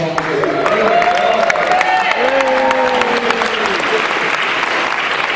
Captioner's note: cheering